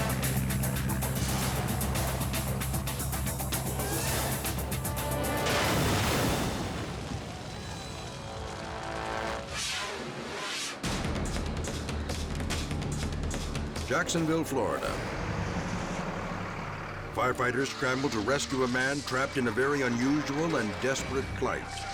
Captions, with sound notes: (dramatic music) (plane booms) (air whooshes) Jacksonville, Florida. Firefighters scramble to rescue a man trapped in a very unusual and desperate plight: